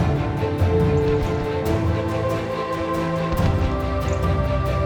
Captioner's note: hooves clopping